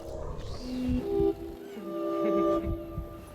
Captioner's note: woman laughs